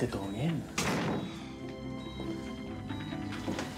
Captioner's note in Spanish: portazo